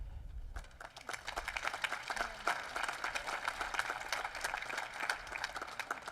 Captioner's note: applause